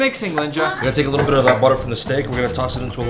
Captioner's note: beep